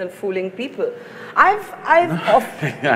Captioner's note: laughs